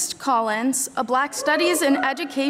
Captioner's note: audience cheering